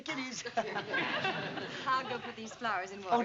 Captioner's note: laughs